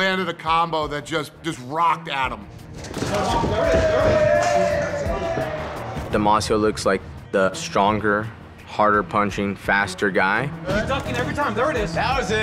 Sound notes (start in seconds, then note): 3.2 cheering